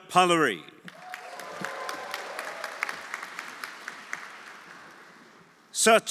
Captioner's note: audience applauding; audience cheering